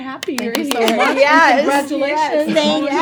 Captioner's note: clapping